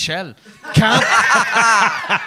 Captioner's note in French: rires